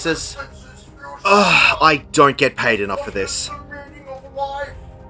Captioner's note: sigh